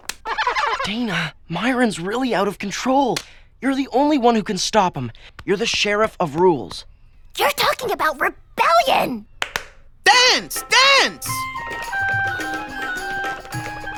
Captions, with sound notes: DANA, MYRON'S REALLY OUT OF CONTROL. YOU'RE THE ONLY ONE WHO CAN STOP HIM. YOU'RE THE SHERIFF OF RULES. YOU'RE TALKING ABOUT REBELLION! (CLAPS) DANCE! DANCE! (MIDDLE EASTERN-STYLE MUSIC PLAYS)